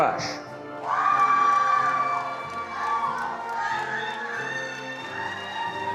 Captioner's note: attendees cheering and applauding